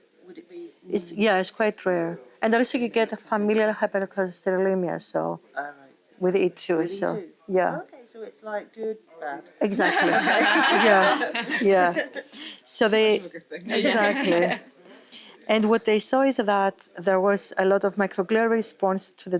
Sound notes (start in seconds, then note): 9.6 all laughing